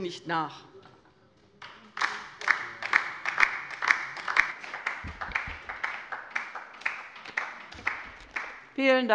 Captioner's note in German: Beifall bei der LINKEN